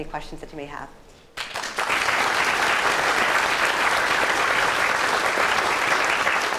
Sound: applause

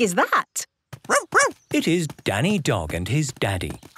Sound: barking

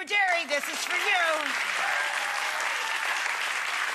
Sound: audience applause

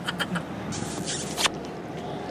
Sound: kissing

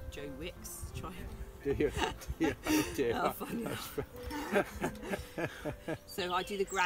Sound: laughter

